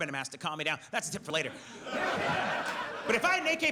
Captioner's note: audience laughs